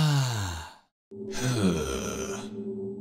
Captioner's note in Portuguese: Suspira de alívio; Gemidos